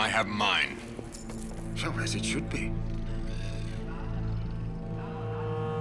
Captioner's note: Jenek growls